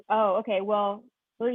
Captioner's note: speaks faintly